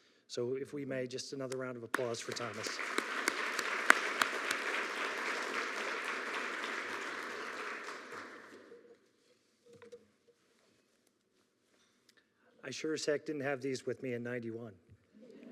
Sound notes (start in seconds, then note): 1.9 audience clapping